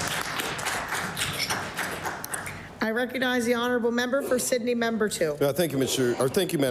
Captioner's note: applause